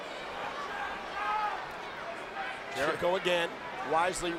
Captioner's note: crowd murmuring